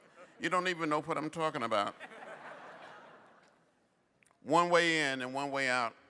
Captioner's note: laughter